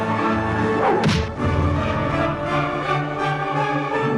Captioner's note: sword smacks